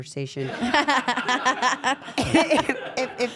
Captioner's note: laugh